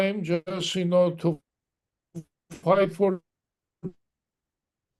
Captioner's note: crackling drown out speaker